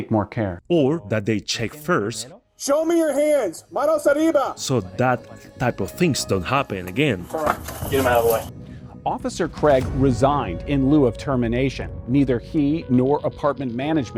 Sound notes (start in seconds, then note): 3.1 shouts in Spanish